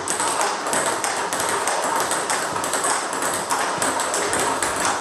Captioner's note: ball ping pong hitting continues